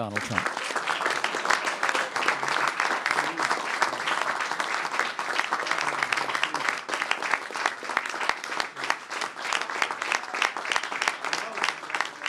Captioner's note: applause